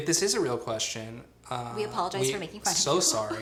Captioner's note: laughs